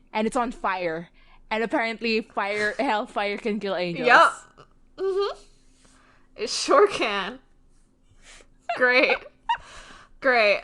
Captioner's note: laughs